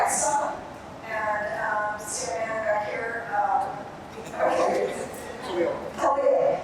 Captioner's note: audience murmuring